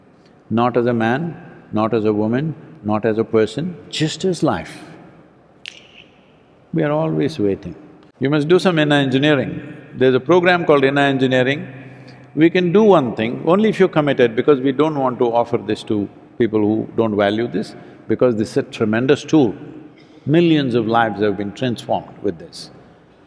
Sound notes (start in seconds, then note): 5.6 snaps fingers